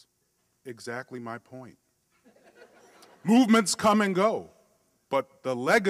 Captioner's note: laughter